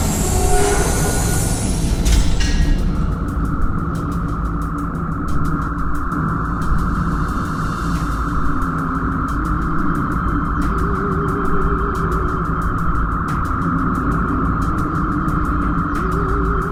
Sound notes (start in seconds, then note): 2.1 door opens